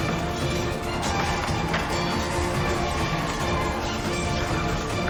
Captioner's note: revenants growling